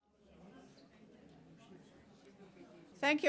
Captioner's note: people chattering